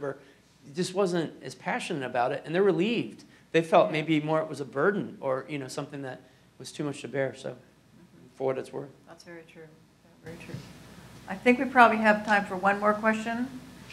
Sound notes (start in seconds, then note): none